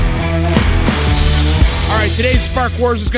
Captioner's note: welder sparking